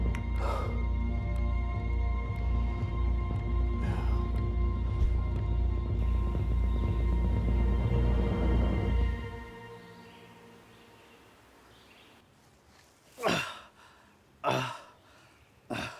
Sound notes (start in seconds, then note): 6.0 birds chirping; 14.4 Arawn groaning